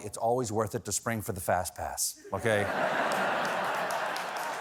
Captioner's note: laughter